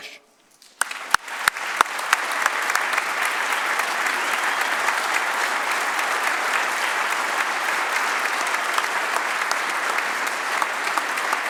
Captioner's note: applause